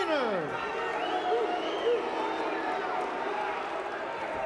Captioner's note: fans cheering